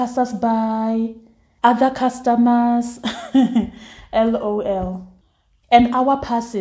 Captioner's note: laughs